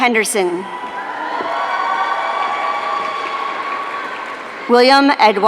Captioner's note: audience cheering